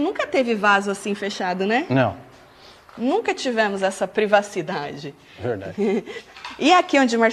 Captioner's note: chuckles